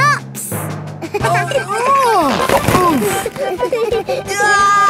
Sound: giggling; grunting; giggling

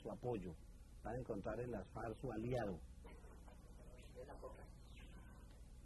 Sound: non-English narration

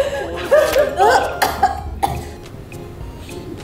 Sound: I am so angry that I am coughing

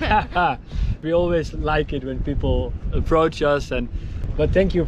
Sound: laughs

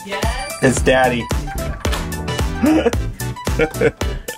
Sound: unlocks door

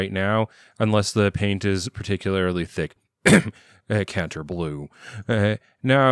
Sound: cough

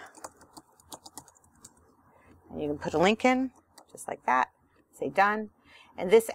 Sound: click

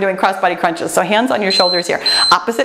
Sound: timer beeps

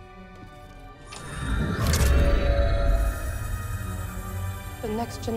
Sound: holocron hums

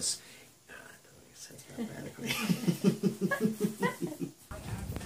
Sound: laughing

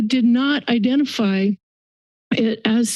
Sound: silence

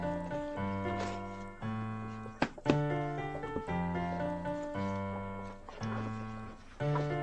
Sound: toilet paper hiding noises

